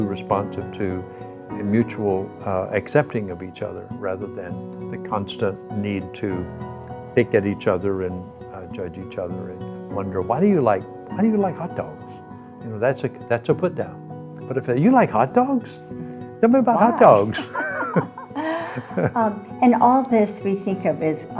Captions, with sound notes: responsive to, in mutual accepting of each other rather than the constant need to pick at each other and judge each other and wonder, "Why do you like hot dogs?" You know, that's a put-down. But, "You like hot dogs? "Tell me about hot dogs." - Why? (laughing) And all this we think of as,